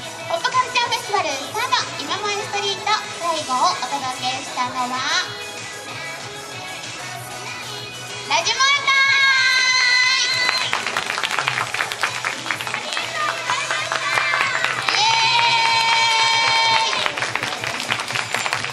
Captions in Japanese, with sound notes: ぽっぷカルチャーフェスティバル３ｒｄ いま萌えストリート 最後をお届けしたのは ラヂ萌え隊 【拍手】 ありがとうございました いえーい 【拍手】